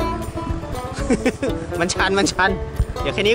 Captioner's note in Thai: หัวเราะ